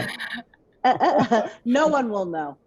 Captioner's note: all laughing